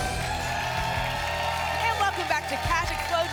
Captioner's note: applause